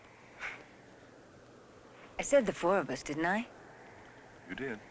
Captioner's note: growling